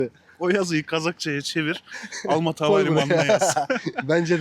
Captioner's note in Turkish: kahkaha